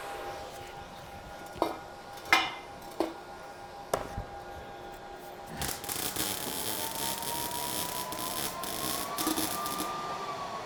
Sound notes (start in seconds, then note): 2.0 tools clinking; 5.6 tools buzzing